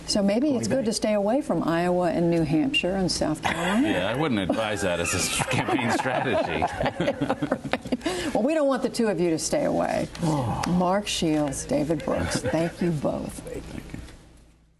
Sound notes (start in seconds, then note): 4.2 laughter